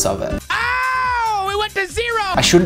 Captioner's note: shouts loudly